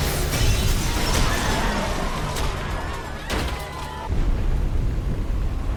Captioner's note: loud crashing; people screaming